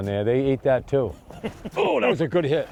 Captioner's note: laughs